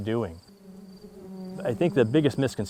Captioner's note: bees buzzing